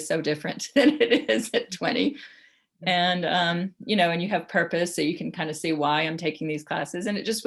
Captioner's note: laughs